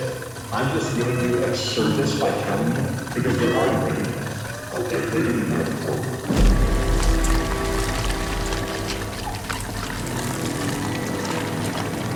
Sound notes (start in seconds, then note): 4.8 voice distorting; 6.6 blood squelching